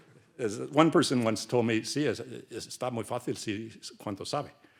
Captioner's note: speaks Spanish